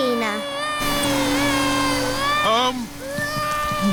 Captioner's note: crying